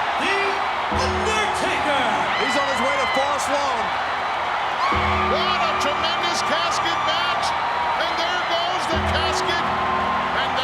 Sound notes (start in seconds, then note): 4.5 audience cheers